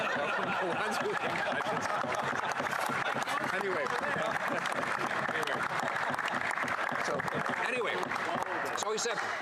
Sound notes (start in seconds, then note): 0.0 laughter; 7.0 laughter; 8.2 applause